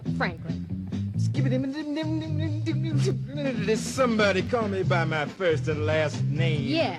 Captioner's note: As Roosevelt, scatting